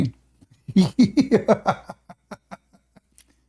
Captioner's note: Ketawa